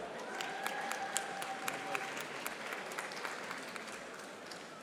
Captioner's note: audience applauding